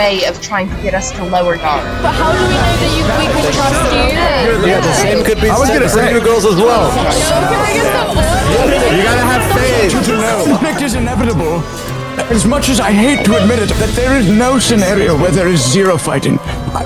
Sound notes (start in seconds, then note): 7.0 overlapping chatter